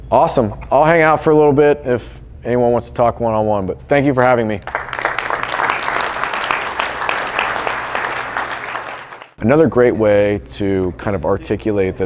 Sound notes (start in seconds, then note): 4.6 applause